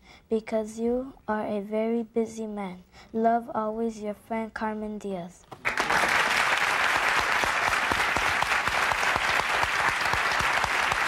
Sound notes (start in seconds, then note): 5.6 audience applauding